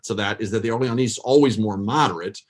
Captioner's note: foreign language